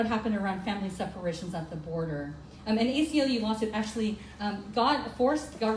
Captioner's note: none